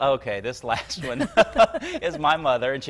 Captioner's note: both laugh